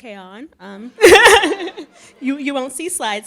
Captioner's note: laughing